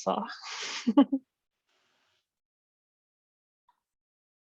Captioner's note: chuckles